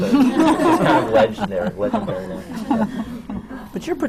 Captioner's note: laughter